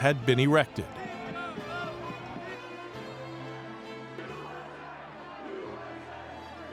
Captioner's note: dramatic music; shouting